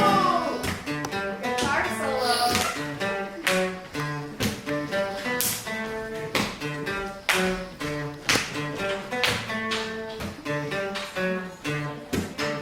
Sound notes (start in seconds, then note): 4.9 acoustic guitar; 4.9 clapping